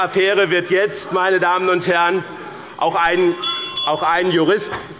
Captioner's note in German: Anhaltende Unruhe – Glockenzeichen des Präsidenten